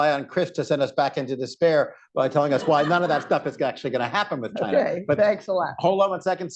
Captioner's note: laughter